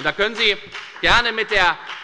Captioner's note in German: Beifall bei der FDP